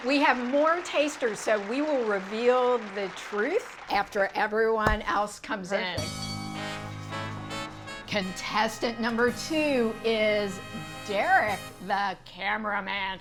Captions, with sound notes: We have more tasters, so we will reveal the truth after everyone else comes in. - Perfect. (bell dinging) (upbeat music) - Contestant number two is Derrick the cameraman.